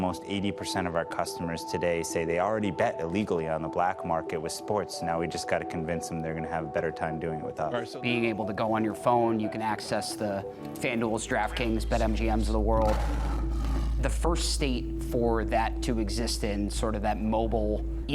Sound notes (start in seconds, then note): 12.8 lion roar